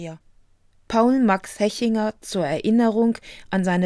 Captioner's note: german